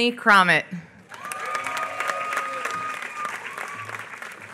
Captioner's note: applause